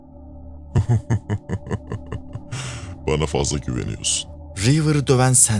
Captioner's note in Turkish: kahkaha